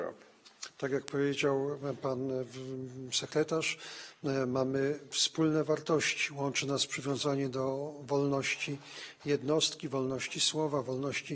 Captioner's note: speaking polish